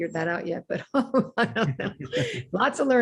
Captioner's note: laughs